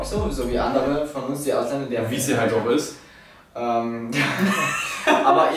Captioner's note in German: ironie